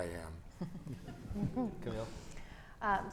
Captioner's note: audience chuckles